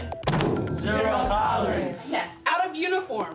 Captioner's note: class in unison